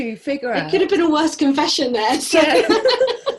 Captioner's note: both laugh